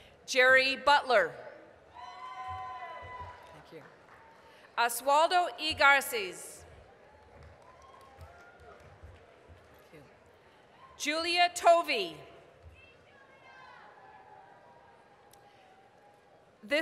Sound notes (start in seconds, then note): 2.0 applause, cheering; 6.7 applause; 13.3 applause, cheering